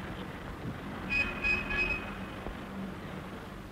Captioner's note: traffic noise